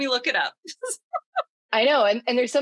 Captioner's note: laughs